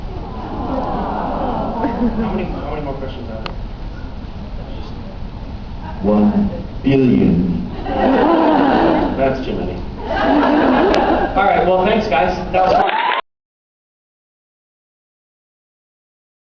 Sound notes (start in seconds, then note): 7.8 laughs; 12.6 cheers, applauds